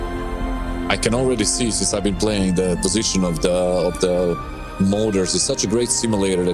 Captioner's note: jets